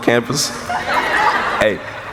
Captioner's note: laughing